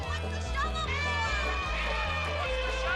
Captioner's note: elephant trumpeting